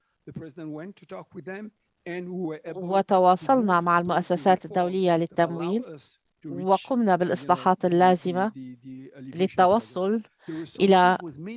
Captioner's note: interpreter talking in foreign language